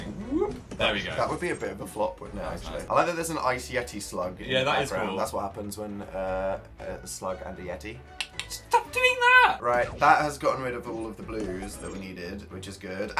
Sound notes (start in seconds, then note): 8.2 suggestive click click